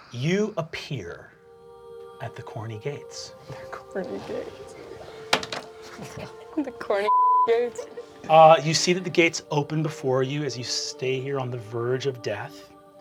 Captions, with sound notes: You appear at the corny gates. - They're corny gates! (choral music) The corny (beeping) gates. - You see that the gates open before you as you stay here on the verge of death.